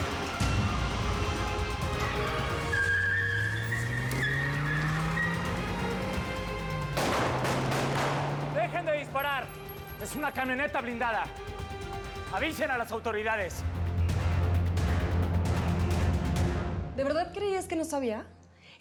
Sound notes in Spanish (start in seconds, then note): 2.2 rechinido de llantas